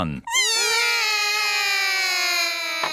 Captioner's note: all cry